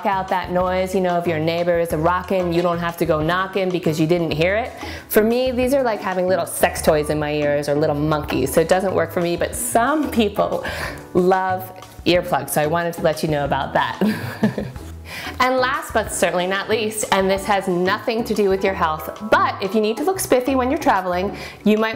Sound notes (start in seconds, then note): 14.0 laughs